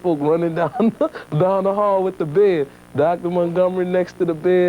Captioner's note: chuckling